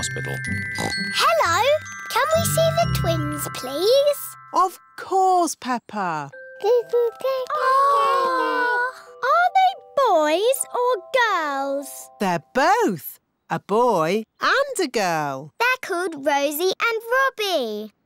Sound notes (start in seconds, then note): 0.7 oinks; 7.6 babies gurgle